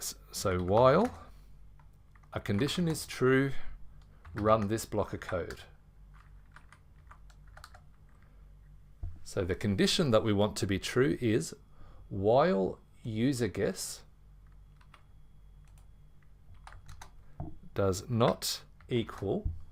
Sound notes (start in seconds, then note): 6.1 keyboard typing